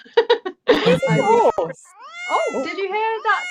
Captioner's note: laughter; miaow sound